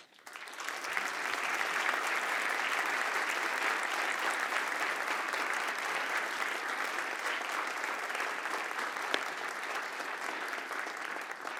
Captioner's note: applause